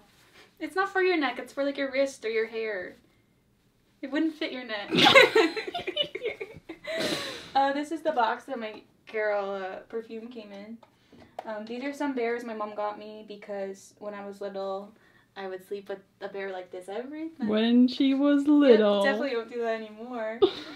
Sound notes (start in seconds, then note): 4.9 both laugh